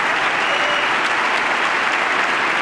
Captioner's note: applause